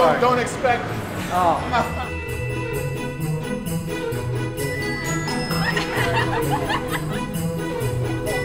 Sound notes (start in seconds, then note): 5.6 laughter